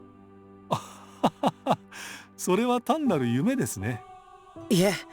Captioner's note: chuckle